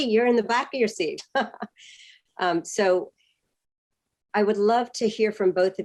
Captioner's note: laughter